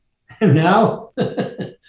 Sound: chuckles

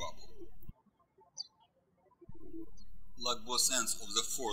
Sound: birds chirping

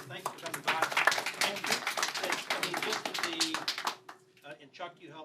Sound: applause

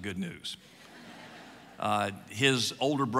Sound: audience laughs

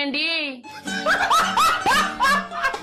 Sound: man laughs

